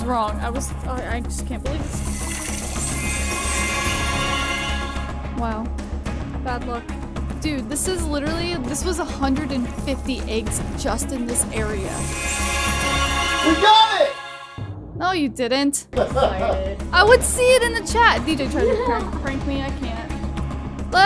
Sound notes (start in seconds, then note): 16.0 DJ laughing